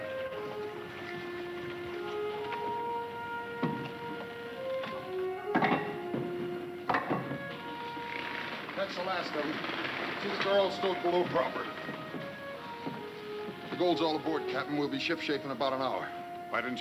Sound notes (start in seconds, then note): 5.6 ingots clattering